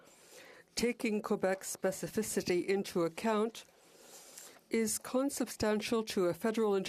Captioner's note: speaking French